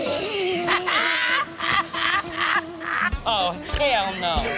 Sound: laughs

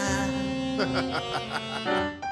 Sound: laughing

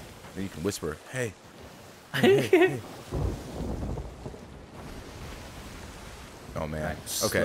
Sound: laugh

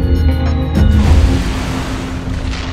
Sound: crash

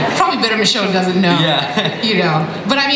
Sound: laughs

